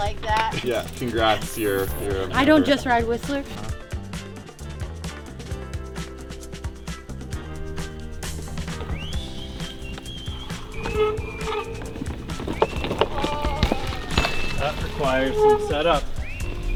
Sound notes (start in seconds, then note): 3.9 lively music; 13.4 wheels clunking